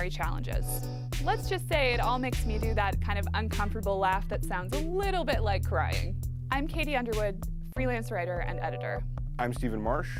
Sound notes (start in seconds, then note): none